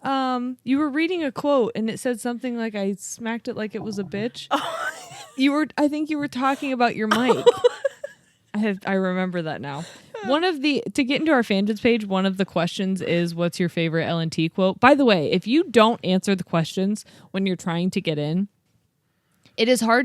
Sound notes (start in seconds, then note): 4.4 laughs